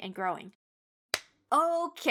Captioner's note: claps